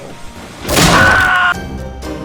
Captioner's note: scream sfx